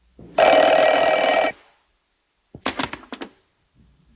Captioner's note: phone ringing